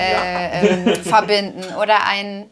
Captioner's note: Er lacht